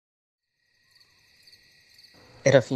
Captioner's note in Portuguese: Barulho de grilos